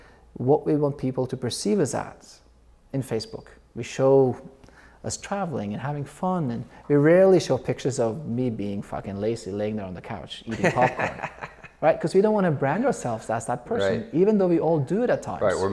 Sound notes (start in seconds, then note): 10.5 laughs